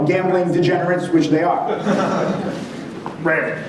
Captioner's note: audience laughs